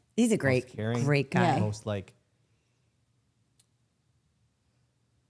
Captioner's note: laughs